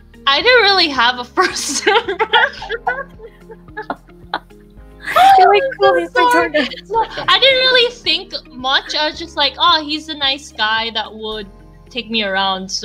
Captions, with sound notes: I didn't really have a first impression [LAUGHS] I didn't really think much, just like "Oh he's a nice guy," that would take me around